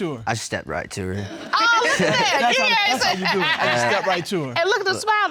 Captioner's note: judge laughing